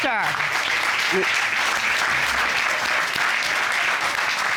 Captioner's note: applause